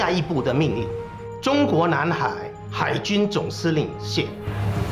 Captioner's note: speaking Chinese